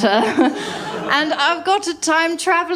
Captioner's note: laughter